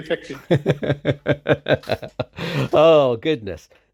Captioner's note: laughing